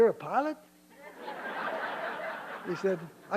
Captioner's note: laughter